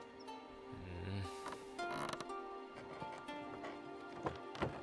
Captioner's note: Kaak groans